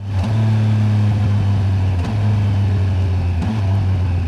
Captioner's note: engine